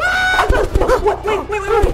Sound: yelling; whooshing

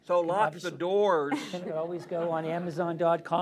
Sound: laughter

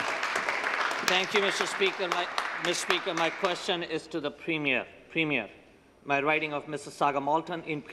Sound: some Applause

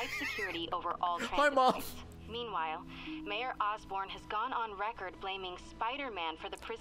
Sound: laughs

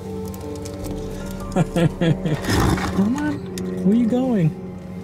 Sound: laughter; airplane flies overhead

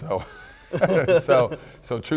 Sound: laughing

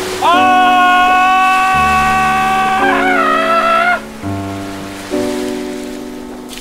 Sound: primal Scream

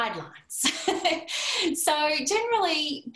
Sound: laughter

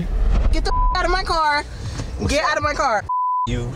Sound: beep; beep

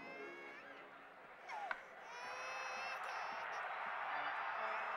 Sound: crowd cheering on TV

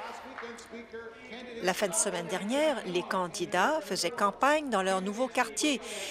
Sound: applause

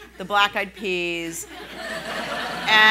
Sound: laughing

